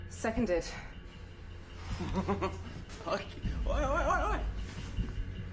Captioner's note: giggles